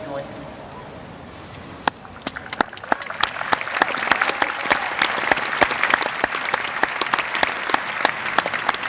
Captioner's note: applause